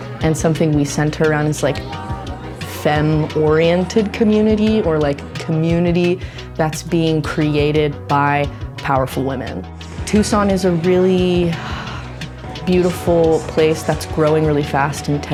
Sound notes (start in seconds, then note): 11.5 sighs